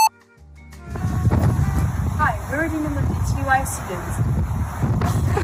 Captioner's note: computer beep; wind sound